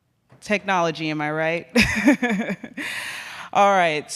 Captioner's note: laughs